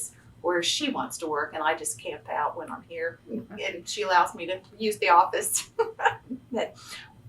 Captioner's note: laughs